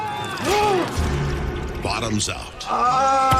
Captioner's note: man screaming